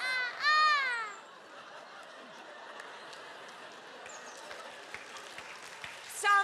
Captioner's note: audience laughing and clapping